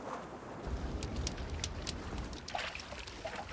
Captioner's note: fire crackling; water sloshing